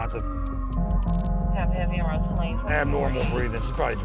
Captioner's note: siren wailing